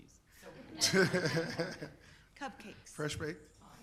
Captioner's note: people laughing